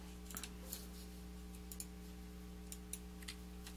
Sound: mouse clicking

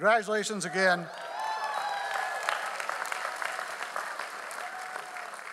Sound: audience applauds

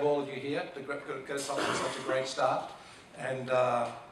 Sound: person coughing

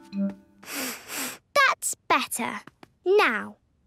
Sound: sniffs

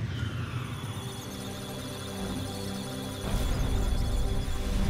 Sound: electronic sounds of data; musical tones

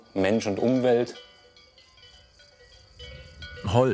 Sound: cowbells ring

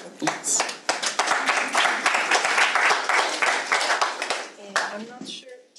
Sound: audience applauds

